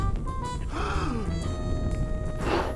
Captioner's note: gasps; blows softly